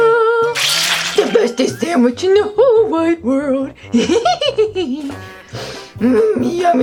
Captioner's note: giggles